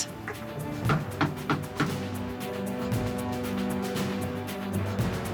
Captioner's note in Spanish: Toques en la puerta